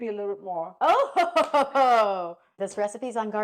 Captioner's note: laughing